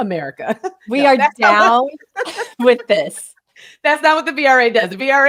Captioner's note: laughing